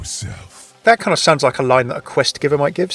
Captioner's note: voiceover